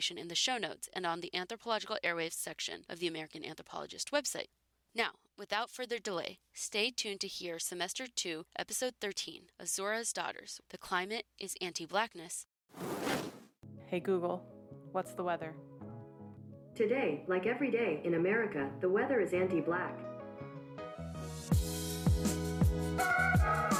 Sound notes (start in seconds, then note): 12.8 transition audio; 20.8 intro music